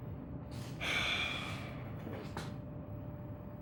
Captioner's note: Reverie sighs